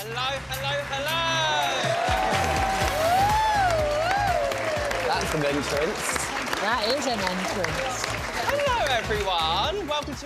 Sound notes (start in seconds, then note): 2.1 cheering & applause